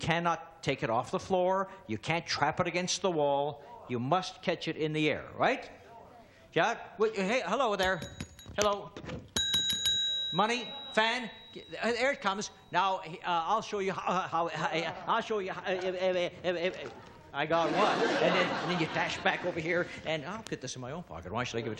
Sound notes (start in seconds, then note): 9.3 bell ringing; 17.3 audience laughing